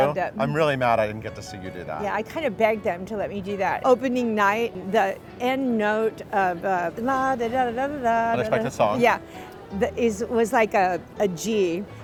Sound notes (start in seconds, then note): 6.9 humming rhythmically